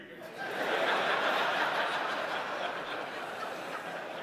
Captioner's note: audience laughing